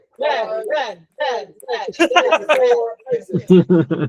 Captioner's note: laughing